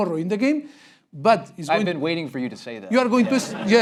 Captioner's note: laugh break